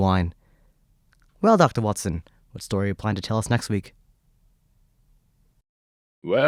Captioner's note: pause